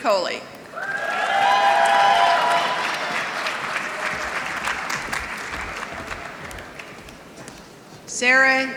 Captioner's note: applause